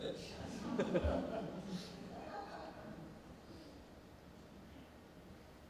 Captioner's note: laughing